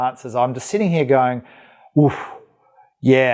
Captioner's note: exhales